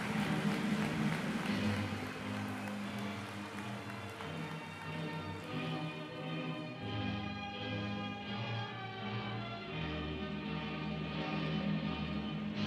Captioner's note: applause